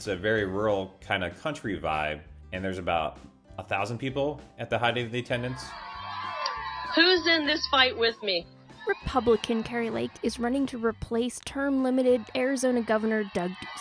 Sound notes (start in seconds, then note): 8.3 cheering Crowds